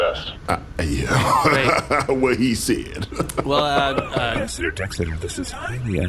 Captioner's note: laughs; whispered